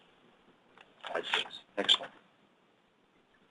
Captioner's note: pages turning